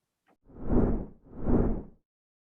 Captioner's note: whooshing